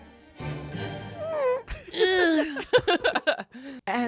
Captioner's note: moans